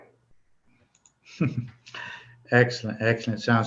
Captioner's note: laughs